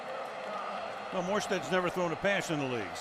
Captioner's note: pa announcement